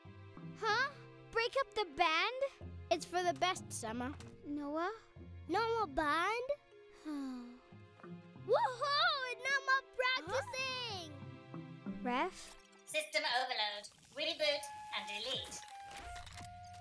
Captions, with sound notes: - Huh? Break up the band? - It's for the best, Sema. - Noah? - No more band?! (sighs) Wa-hoo! No more practising! - Huh?! - Ref? - System overload. Reboot and delete. (whirring)